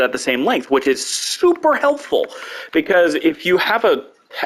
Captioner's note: normal voice